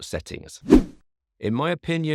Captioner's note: screen whooshing